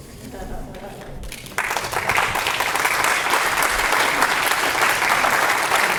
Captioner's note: crowd laughs and applauds